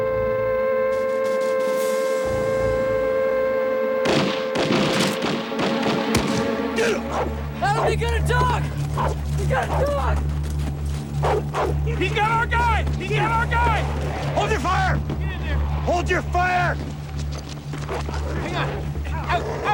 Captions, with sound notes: (gun fire) - Get 'em. (dog barking) - They got a dog. They got a dog! He's got our guy. He's got our guy. - Hold your fire. - Get in there. - Hold your fire. - Hang on.